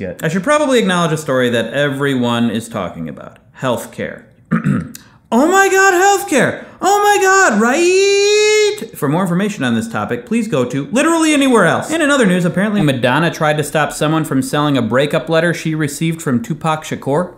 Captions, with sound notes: I should probably acknowledge a story that everyone is talking about, health care. *Clears Throat* Oh my God, health care. Oh my God, riiiiiight? For more information on this topic Please go to literally anywhere else. And in other news apparently Madonna tried to stop someone from selling a breakup letter she received from Tupac Shacore